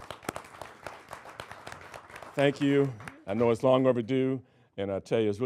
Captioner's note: applauding